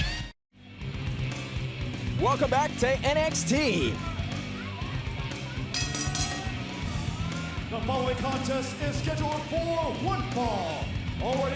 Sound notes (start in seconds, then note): 5.7 bell ringing